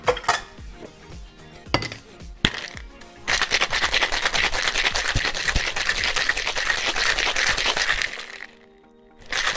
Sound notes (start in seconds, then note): 0.0 clinks; 2.5 thuds